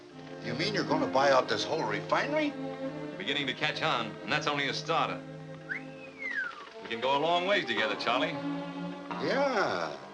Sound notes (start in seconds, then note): 5.6 whistles